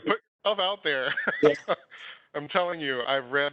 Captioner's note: laughs